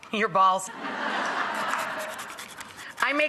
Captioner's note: audience laughs